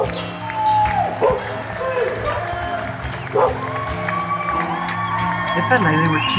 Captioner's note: cheering & Clapping